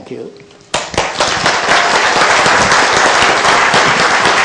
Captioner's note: applause